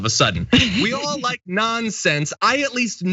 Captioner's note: laugh